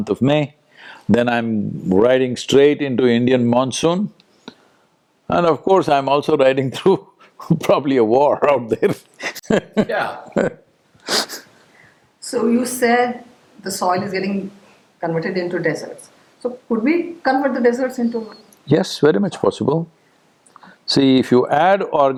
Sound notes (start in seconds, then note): 9.2 laughs